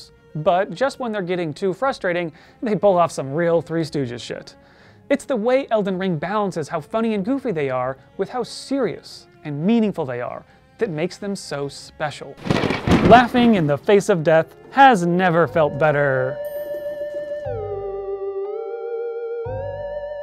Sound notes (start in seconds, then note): 12.4 thunder CRASHES